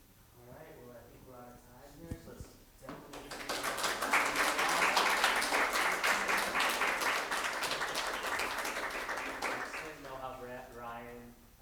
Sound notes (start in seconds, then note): 3.1 audience applauding